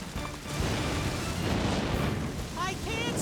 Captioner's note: fire Roaring